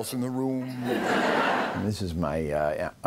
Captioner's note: laughter